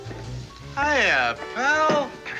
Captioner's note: slurring words